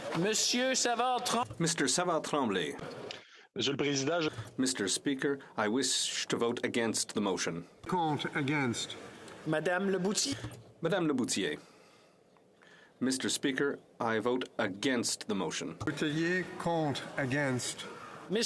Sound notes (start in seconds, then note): 3.9 speaking French